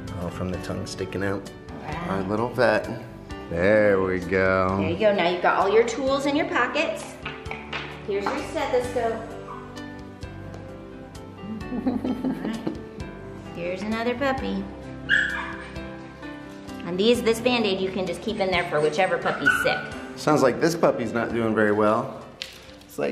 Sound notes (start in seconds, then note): 11.5 laughter